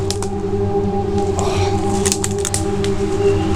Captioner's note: exhales